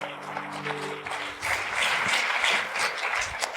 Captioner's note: congregation applauding